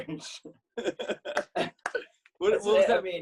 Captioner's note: both laugh